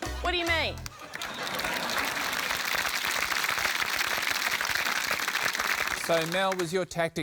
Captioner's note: applause